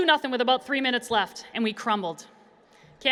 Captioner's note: none